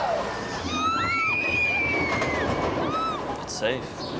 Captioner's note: screaming